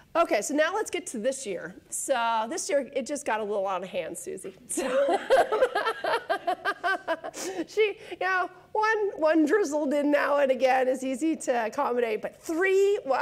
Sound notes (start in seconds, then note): 4.7 laughing